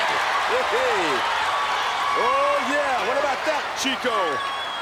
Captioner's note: laughs